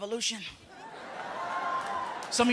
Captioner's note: light cheering